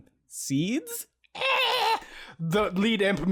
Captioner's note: Imp noises